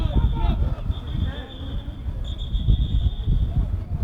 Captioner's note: whistle